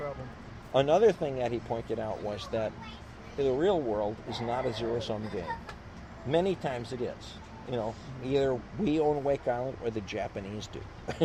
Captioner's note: laughs